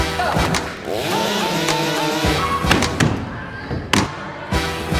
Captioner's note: chainsaw engines revving